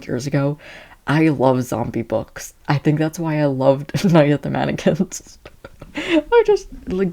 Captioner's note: laughing